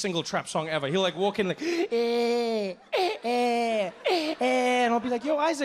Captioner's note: imitates crying